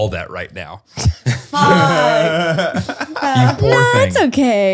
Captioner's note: laughing